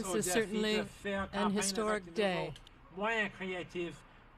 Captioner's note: speaking French